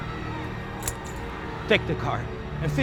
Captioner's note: keys jangling